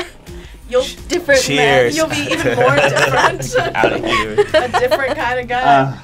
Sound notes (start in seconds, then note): 1.9 laughs